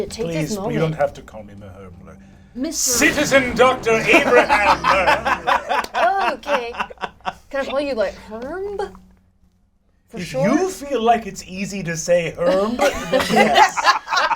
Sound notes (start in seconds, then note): 3.0 laughs